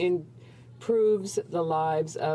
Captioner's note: speaking French